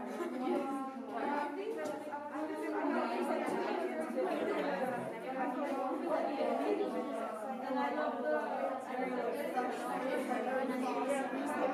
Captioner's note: muffled chatter